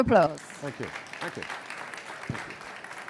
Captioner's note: applause